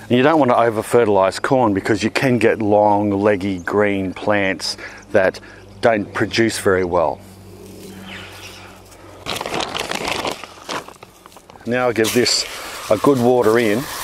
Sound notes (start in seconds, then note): 8.8 package crackles